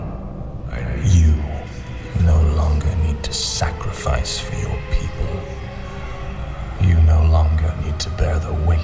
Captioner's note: voice-over